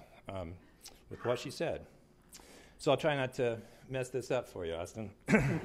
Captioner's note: clears throat